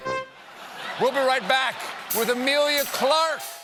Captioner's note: laughter